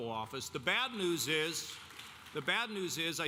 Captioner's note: audience applauding